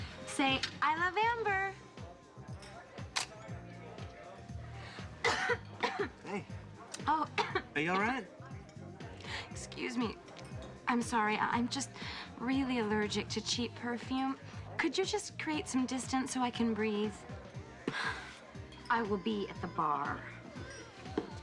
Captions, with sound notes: SAY, "I LOVE AMBER!" ( coughing ) HEY, ARE YOU ALL RIGHT? EXCUSEE, M I S'MORRY. I'JUM ST REALLALY LEICRG CAPHE PERFUME. ULD YOU STJU CREATE SOME DISTANCE SO I CAN BREATHE? WILL BE TATHE BAR.